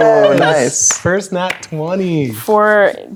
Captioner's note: clapping